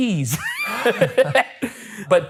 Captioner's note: both laughing